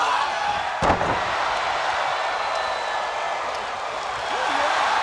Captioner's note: audience cheering